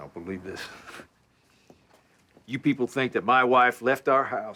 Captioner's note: scoffs